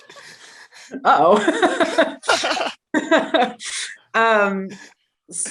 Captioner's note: laughter